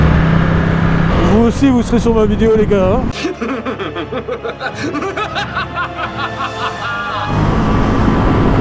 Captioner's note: evil laugh